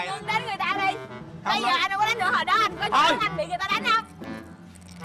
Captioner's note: arguing